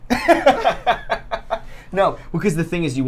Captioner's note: laughs